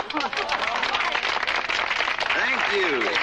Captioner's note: laughter and applause